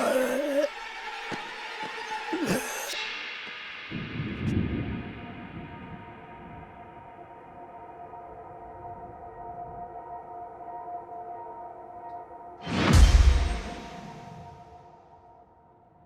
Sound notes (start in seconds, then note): 0.0 man groans; 3.9 thunder rumbling; 12.4 dramatic music